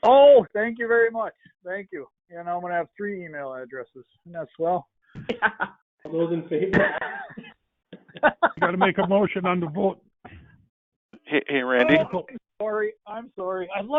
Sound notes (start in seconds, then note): 7.9 laughter